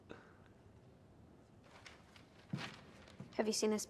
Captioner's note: papers shuffling